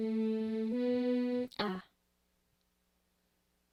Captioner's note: voiceover